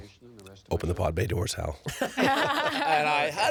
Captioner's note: all laughing